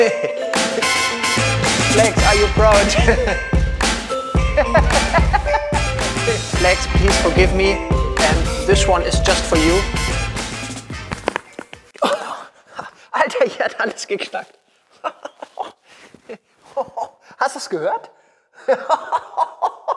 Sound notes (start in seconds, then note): 0.0 laughter; 11.1 cracking